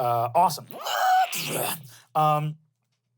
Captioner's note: shrieks